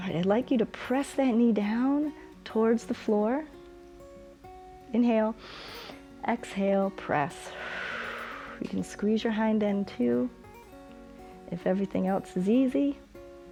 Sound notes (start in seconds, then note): 7.4 exhales; 7.4 inhales